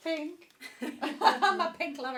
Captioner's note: laughing